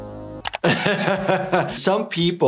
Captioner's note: Lumpy gasps; laughing